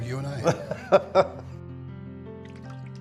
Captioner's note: laughs